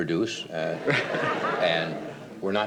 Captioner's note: audience laughs